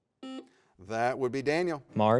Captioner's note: buzzer beeps